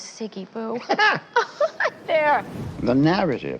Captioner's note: laughing